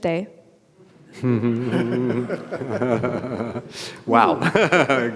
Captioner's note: audience and presenter laugh